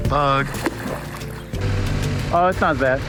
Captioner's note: water splashing